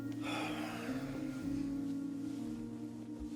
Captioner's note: Ron sighs